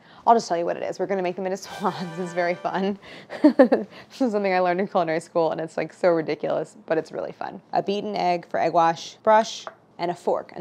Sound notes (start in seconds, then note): 1.6 victory sound; 3.5 laughs